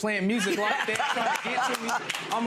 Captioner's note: audience laughs